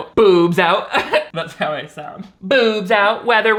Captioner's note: laughs